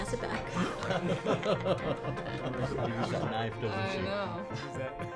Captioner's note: people laughing